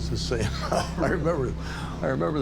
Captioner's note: laughs